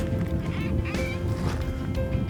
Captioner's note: squeaking